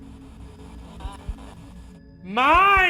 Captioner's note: static